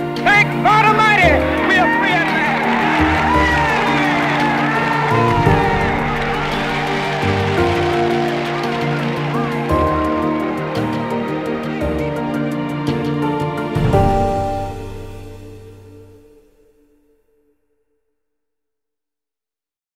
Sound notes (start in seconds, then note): 3.3 crowd cheering; 5.6 gentle instrumental music